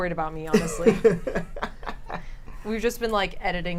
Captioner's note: laughs